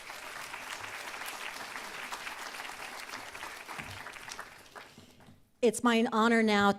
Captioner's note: applause